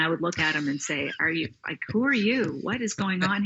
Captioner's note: laughing